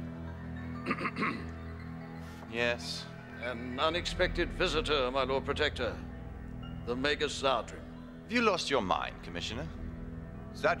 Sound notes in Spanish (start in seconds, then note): 0.8 El comisionado se aclara la garganta